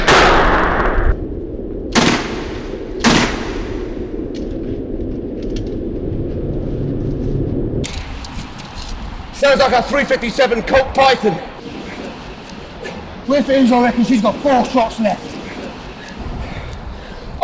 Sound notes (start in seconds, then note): 1.9 gun fires